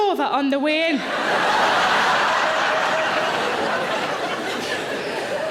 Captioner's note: audience laughing